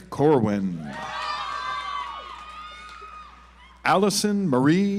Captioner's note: audience applauds